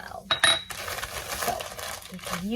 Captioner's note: bowl clinks